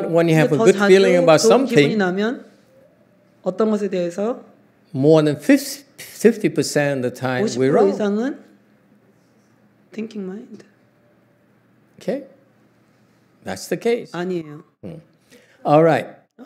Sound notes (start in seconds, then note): none